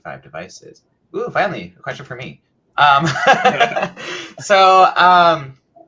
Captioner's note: laughs